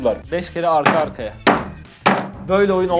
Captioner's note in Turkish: vurma sesleri